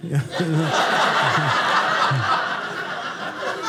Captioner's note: audience laughing